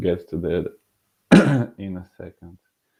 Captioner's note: clearing throat